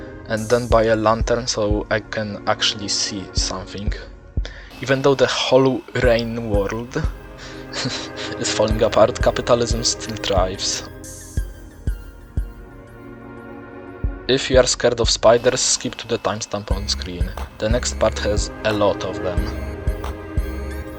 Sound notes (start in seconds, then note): 6.3 rain; 7.3 chuckle